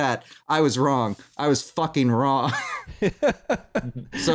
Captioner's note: laughs